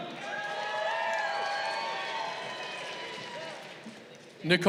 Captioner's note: crowd cheering